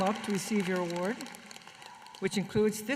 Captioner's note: applause